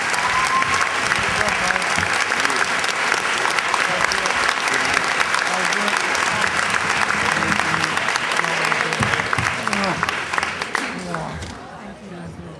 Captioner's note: chatter